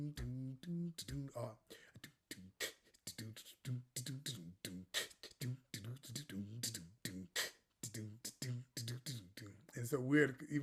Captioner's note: comienza a hacer beatbox